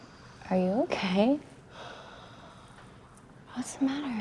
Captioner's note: Ashley sighs